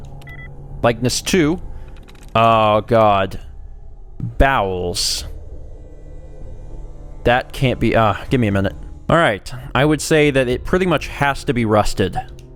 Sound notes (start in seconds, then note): none